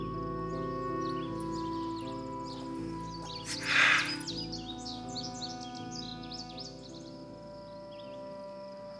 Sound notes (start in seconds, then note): 3.4 sighing